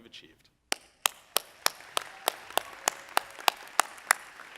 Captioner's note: audience applauding